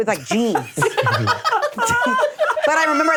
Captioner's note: laughter continues